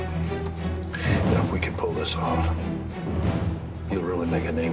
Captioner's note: sighs